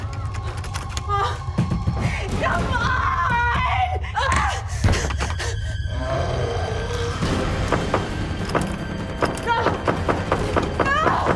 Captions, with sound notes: (screaming) Come on! (demonic growl) (banging on door) No, no!